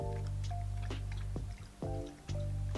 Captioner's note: sip, sip